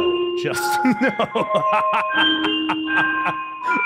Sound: laughs

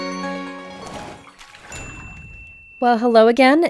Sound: water splashing

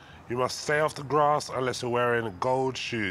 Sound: none

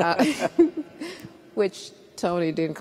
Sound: both laugh

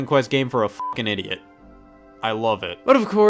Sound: beep

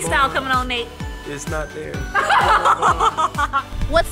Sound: laughing

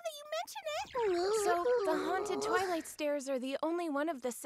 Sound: whimpers

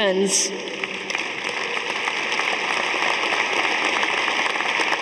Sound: audience applauding

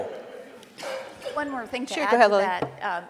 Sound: audience laughing

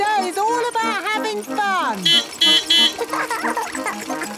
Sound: beeping; laughing

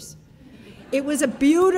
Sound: audience laughing

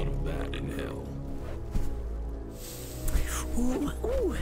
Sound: fire crackling and burning

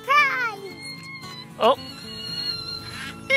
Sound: balloon sounds

